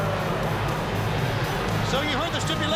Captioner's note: crowd cheering